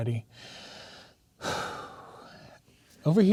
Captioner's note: exhales